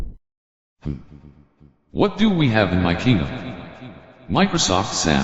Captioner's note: richard tts voice